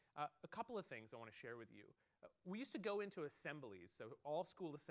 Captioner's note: none